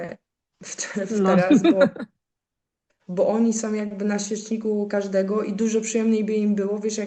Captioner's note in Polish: śmiech